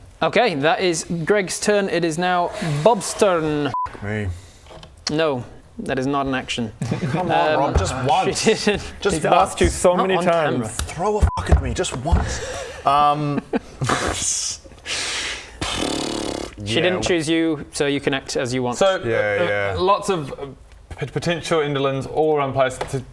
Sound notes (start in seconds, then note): 13.8 cracks up; 15.6 indecisive horse noises